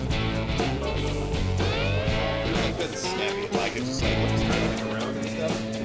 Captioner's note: men conversing